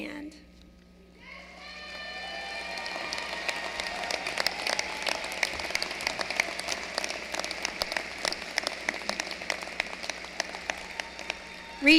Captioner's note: applause